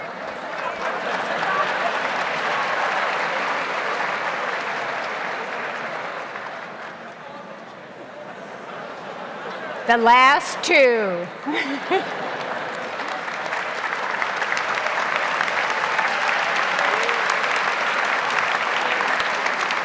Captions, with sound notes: (audience laughs and applauds) - The last two. (laughs) (audience applauds)